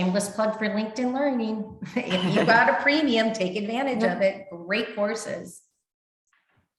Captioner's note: chuckles